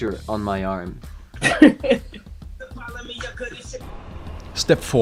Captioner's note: Gary laughing